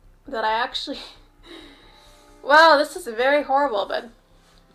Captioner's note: chuckles